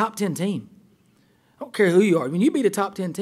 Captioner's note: voiceover